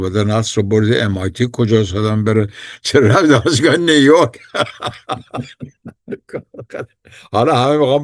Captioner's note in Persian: خنده